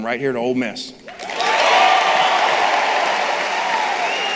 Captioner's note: crowd cheering